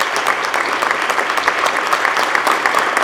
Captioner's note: applause